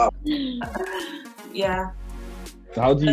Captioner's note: laughs